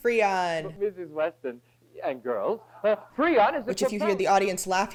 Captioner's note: audience laughter